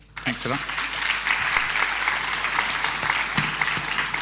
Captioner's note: applause